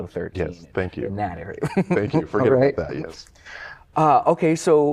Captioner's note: laughter